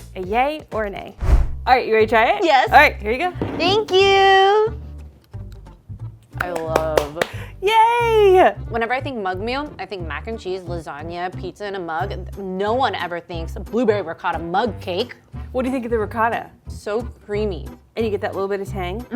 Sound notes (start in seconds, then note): 6.3 hands clapping